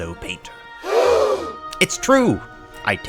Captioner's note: gasps